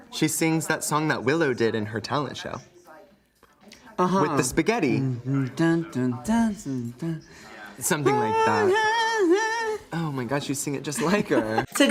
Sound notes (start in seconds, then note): 5.2 Crystal hums.... something